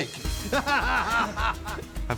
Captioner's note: laughing